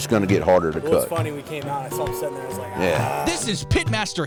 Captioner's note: groan